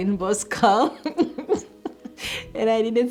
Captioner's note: chuckling